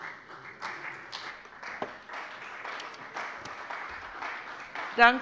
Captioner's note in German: Beifall bei der FDP und bei Abgeordneten der CDU